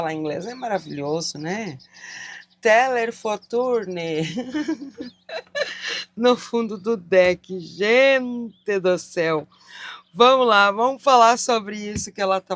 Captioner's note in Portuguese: risadas